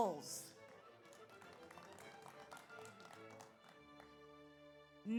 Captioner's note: audience applauds